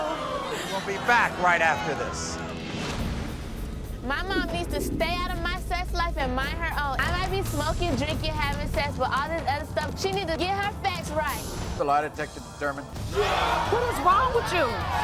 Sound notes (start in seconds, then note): 12.8 audience gasps